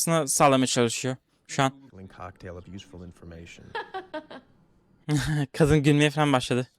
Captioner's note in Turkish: kahkaha